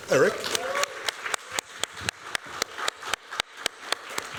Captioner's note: applause